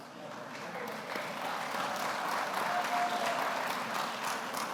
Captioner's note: audience applauds